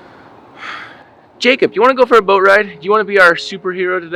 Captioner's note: sighing